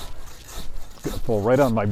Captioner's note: sawing